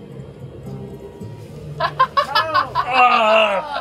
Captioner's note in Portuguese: laughs